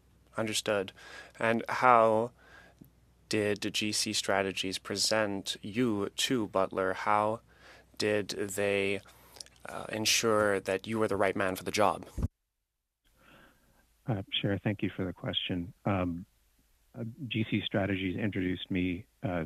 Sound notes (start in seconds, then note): 2.8 speaking French